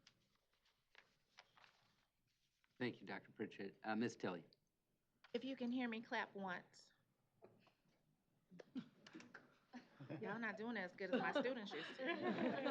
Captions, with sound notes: - Thank you, Dr. Pritchett. Miss Tilley. - If you can hear me, clap once. [laughter] Y'all are not doing as good as my students used to.